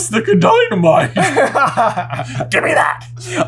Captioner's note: laughter